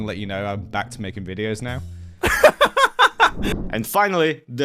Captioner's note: laughs